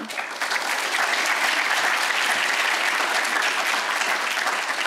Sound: audience applauds

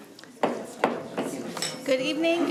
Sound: gavel hammering

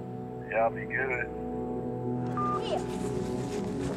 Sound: beeps

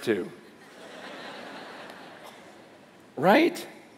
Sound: laughter

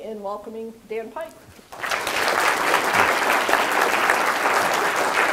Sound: applause

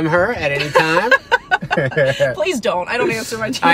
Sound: laughs

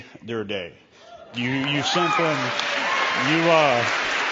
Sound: cheering; applause

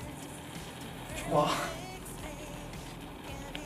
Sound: haha

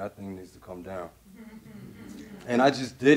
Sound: audience laughing

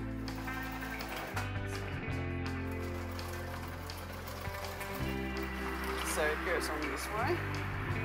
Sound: sewing machine sounds

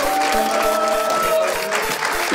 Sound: audience applauding

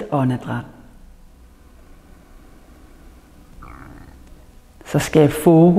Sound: inhales

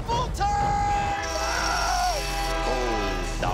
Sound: yells; train whistle blows

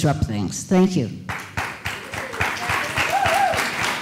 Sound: applause

